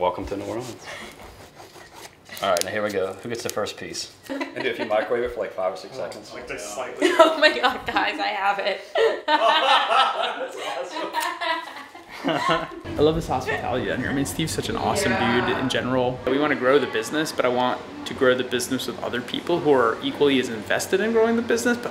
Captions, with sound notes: - Welcome to New Orleans. Alright, now here we go. Who gets the first piece? (laughter) - If you microwave it for like five or six seconds... - (laughs) Oh my god, guys I have it. - (laughs) That's awesome. (laughter) - I love this hospitality down here. I mean, Steve's such an awesome job in general. We want to grow the business, but I want to grow the business with other people who are equally as invested in growing the business,